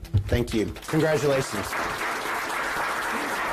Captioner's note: applause